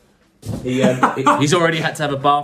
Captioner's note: laughs